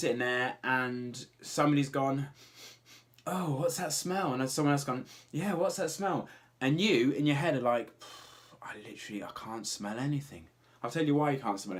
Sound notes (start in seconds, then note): 2.4 sniffs; 8.0 exhales